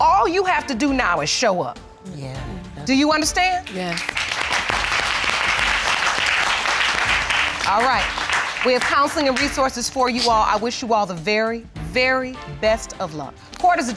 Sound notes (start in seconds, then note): 3.4 audience applauding